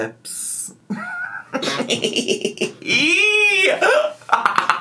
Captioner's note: laughs